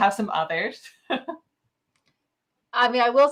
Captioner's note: chuckles